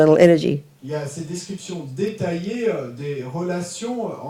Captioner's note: audience member speaks in French